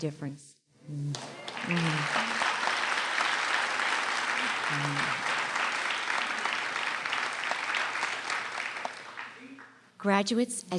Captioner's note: applause